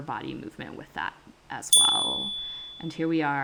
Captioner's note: chime